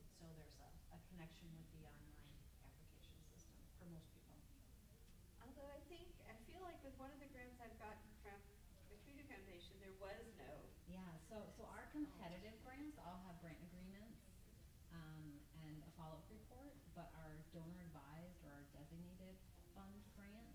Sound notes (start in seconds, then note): 6.6 stammers